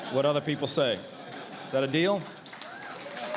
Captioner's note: applause